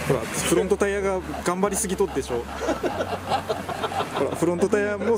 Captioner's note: laughs